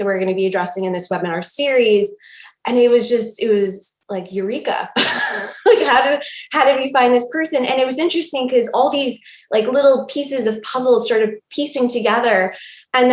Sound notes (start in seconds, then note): 5.0 laughing